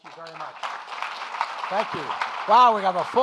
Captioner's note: audience applauding